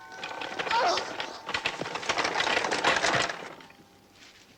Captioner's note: Klara grunting